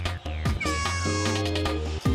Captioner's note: air horn blows